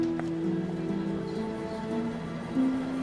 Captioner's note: crowd murmuring